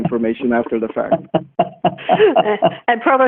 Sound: laughing

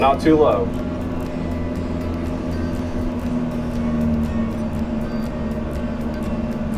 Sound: flight simulator engine whirring continues

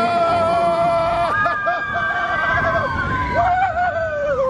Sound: passengers shouting

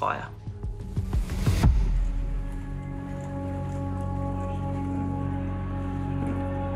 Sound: dramatic music; indistinct chatting

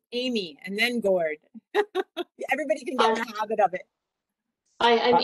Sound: laughs

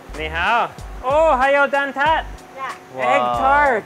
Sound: speaking in foreign language

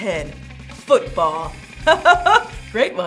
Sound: chuckling

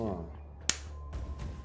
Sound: slap

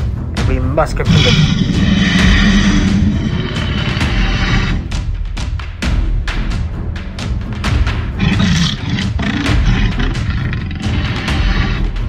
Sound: T-rex growling

